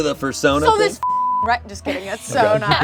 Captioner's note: beep